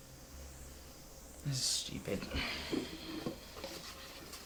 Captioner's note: sighs despondently; box and paper rustling